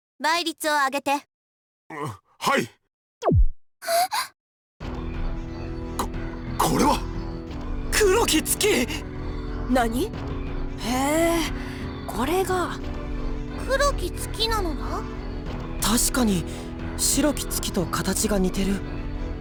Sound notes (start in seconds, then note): 4.2 gasp